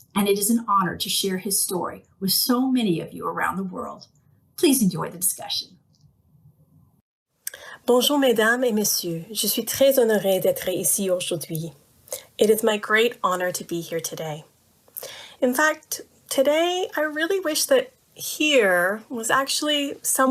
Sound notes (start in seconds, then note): 10.7 speaking french